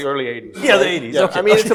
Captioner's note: laughs